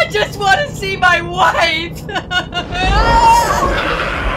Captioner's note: cries